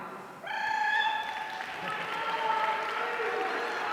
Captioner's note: audience cheering